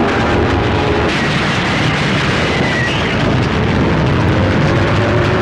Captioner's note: fire roaring